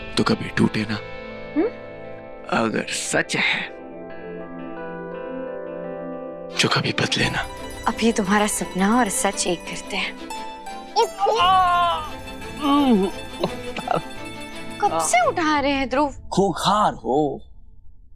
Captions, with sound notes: - that I don't want to end. - Hmm? If this is reality, then may it never change. Let me help you with your confusion. - Get up! - [screams] Tara! - I have been trying to wake you up. - You are wild.